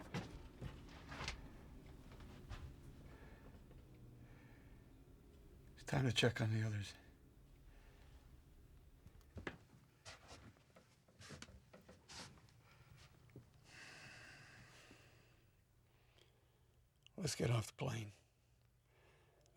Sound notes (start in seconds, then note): 13.6 sighs